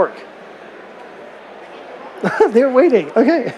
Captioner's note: laughter